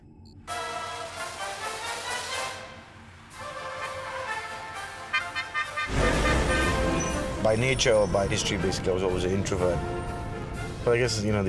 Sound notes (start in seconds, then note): 0.1 upbeat instrumental music; 3.3 horn honking